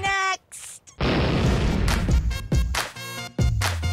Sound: booming

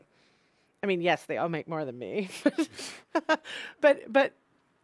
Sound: laughing

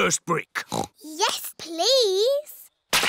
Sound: oinks

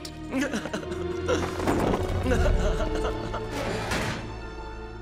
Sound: chuckles

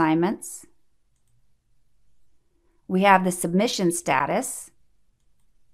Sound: click

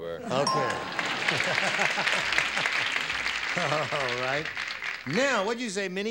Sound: ding

